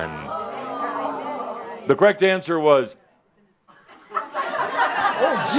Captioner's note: audience says “Ohhh”